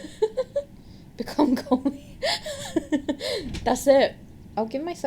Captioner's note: laughs; wheezing